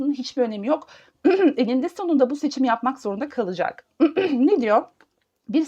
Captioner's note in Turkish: boğazını temizler